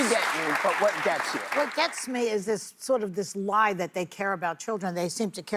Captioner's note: applause